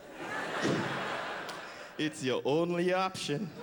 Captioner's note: laughter